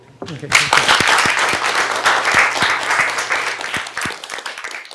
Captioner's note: applause